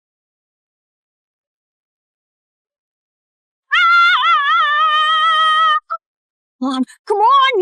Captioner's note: screaming